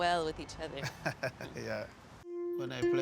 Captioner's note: chuckling